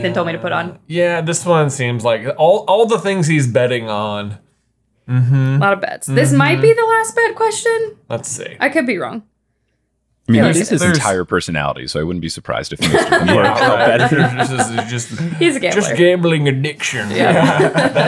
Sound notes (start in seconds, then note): 12.8 laughing; 17.1 everyone chuckling